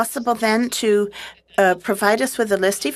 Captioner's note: speaking French